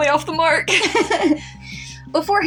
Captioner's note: both Giggle